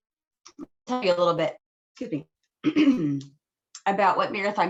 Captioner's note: throat clearing